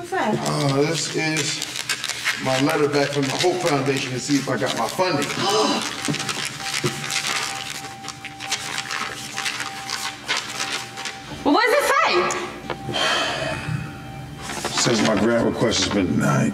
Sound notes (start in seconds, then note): 5.4 gasping; 12.9 sighing